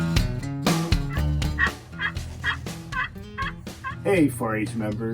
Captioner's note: turkey Call